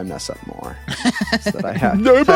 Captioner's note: laughing